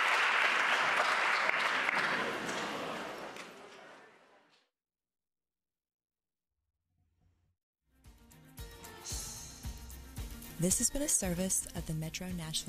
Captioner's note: applause